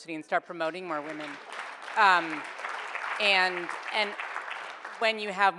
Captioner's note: audience applauds